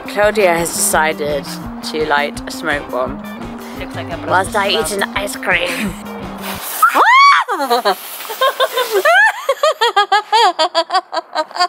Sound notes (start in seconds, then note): 6.8 both: screams; 8.2 both: laughs